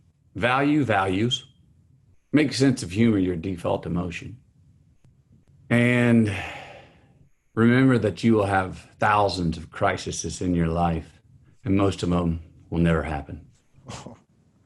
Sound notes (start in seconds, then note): 6.1 sighs